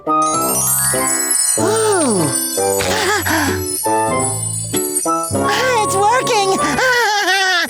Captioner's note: gasping; laughing